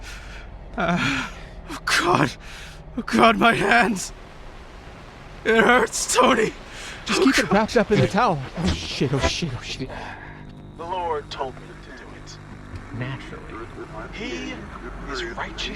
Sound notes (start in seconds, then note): 6.3 low, quiet, gurgling roars